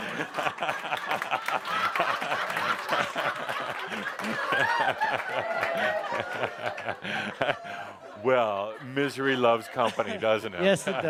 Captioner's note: much laughter and applause from and audience